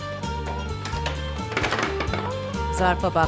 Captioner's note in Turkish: Müzik - Hareketli; Kapı kapanma sesi